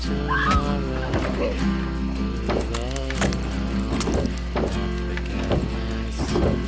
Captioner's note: person screams; fist thuds